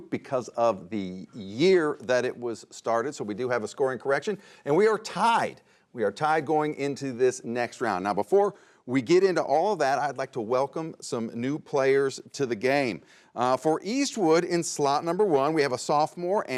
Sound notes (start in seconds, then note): none